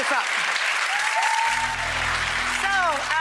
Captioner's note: audience cheering and clapping